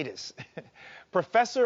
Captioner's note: chuckles